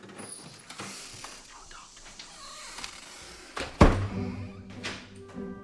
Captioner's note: whispers